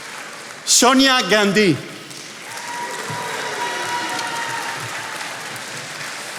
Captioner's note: attendees applauding